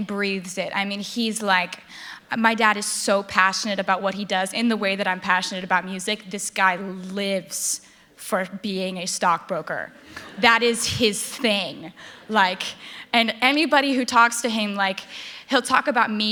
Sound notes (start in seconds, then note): 10.0 laughter